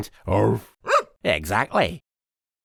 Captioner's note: woof